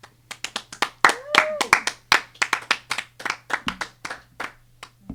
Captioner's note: applauding